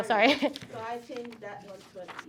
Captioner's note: chuckles